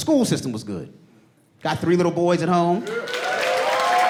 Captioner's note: audience cheering and applauding